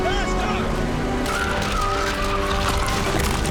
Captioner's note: tires screeching